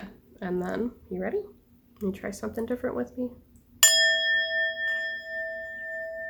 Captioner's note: strikes bell; sustained note